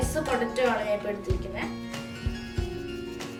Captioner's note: grating